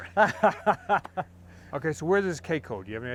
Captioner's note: laughs